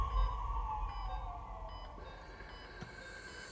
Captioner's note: beeping